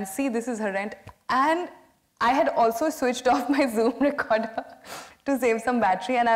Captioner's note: laughs